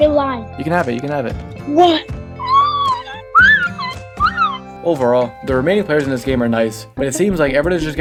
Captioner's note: screams